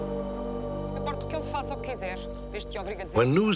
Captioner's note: speaking portuguese